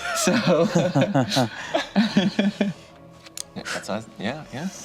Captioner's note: group laughs